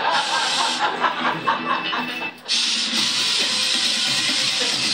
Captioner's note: audience laughing; chainsaw roaring